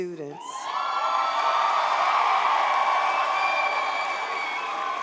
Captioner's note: audience cheers